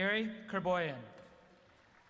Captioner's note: applause